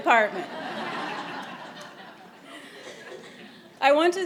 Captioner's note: audience laughing